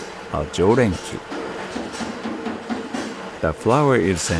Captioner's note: speaking in foreign language